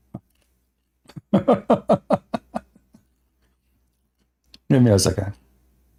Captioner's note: Ketawa